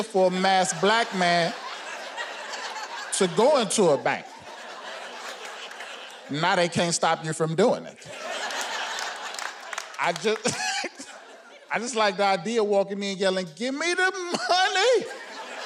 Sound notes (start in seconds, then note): 8.0 audience laughing